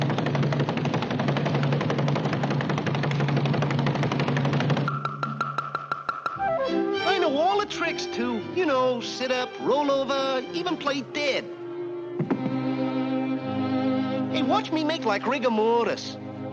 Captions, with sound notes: (fists tapping) (elegant bright music) - I know all the tricks too. You know? Sit up, roll over, even play dead. (body thuds) (somber music) Hey, watch me make like rigor mortis.